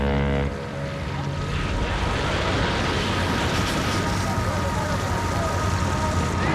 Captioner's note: fire crackling